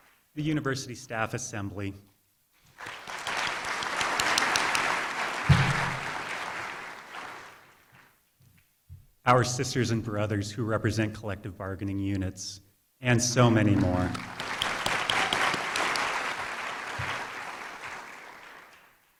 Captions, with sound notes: the university staff assembly, [ Applause ] our sisters and brothers who represent collaborative bargaining units, and so many more. [ Applause ]